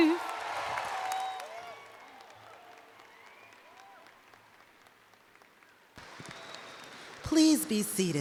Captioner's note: applause